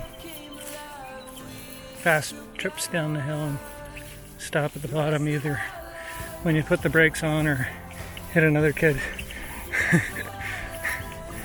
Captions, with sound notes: Fast trips down the hill and stop at the bottom either when you put the brakes on or hit another kid [laughs]